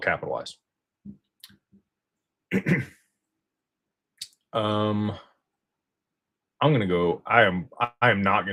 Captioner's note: clears throat